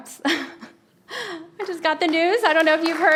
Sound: laughs

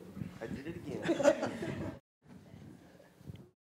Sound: laughter

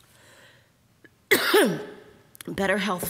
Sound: coughing

